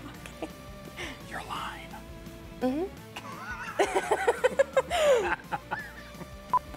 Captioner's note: both laugh